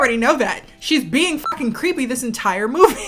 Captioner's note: beep